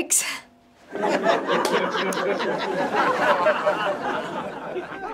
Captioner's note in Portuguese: Risos